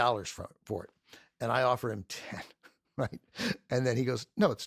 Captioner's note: chuckles